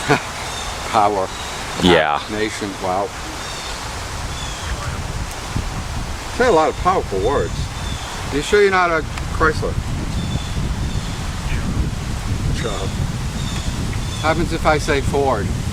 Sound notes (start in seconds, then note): 4.4 Bird Sounds, Ovilus Speaks; 10.1 wind Blowing Hard